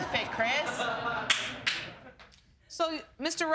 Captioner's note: audience lauging